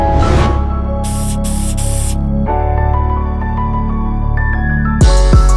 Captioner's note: spray pain can hisses